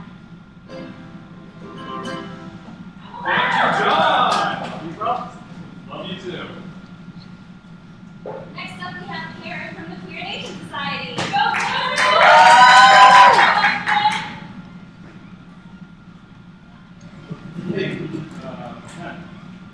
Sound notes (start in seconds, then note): 0.6 ukulele strumming; 3.0 cheers; 11.3 cheers